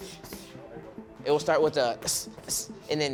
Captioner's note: hissing